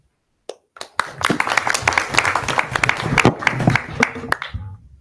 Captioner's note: audience applause